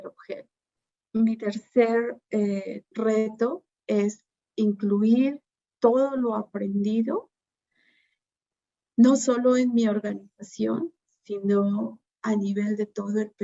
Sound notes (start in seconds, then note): 1.7 Spanish